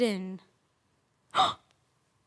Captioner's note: silent; sharp breath in